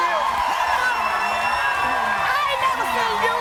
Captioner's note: crowd cheering